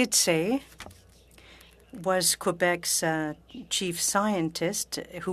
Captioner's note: speaking French